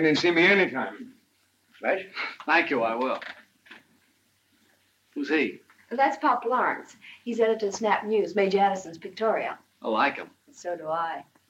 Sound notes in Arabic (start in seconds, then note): 2.3 يضحك